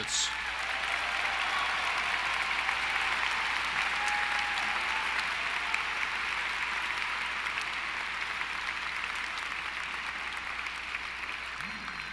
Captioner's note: applause